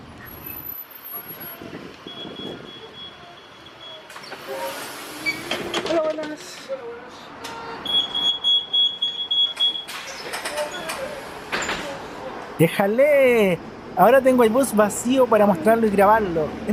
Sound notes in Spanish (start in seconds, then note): 7.4 sonido de cierre de puertas